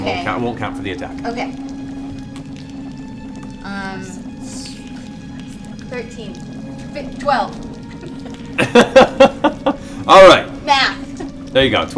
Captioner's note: laughs